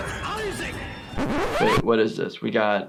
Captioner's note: record scratches